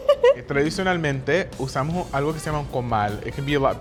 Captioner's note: speaking Spanish